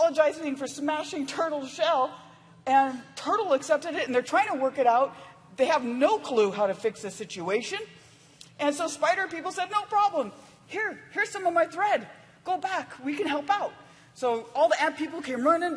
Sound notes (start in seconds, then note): none